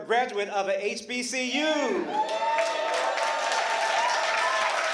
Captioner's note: applause